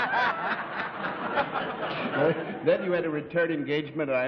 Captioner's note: laughs